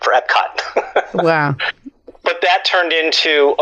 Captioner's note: laughs